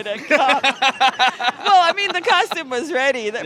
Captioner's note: laughs